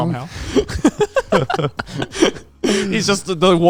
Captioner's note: speakers laughing